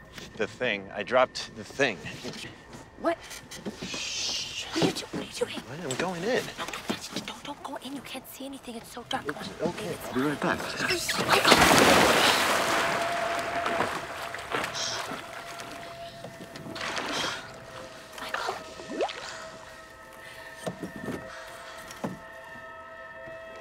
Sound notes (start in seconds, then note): 13.2 water splash; 20.4 slow eerie music